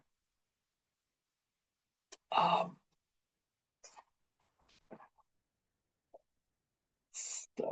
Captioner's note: pause